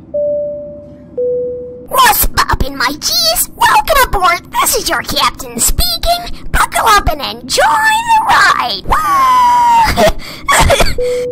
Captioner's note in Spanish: intercomunicador de avión